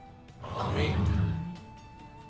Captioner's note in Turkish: Hep bir ağızdan